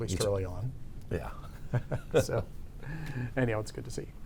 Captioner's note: both chuckle